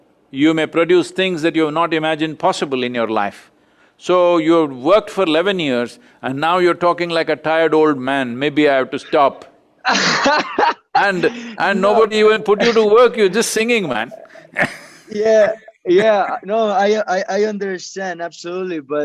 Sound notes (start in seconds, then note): 9.8 laughs; 14.5 laughs